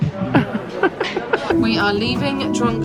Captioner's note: giggles